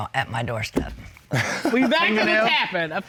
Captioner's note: laughs